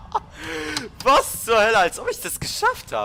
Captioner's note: starts laughing; excited